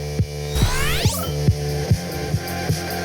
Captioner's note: digital burst of sound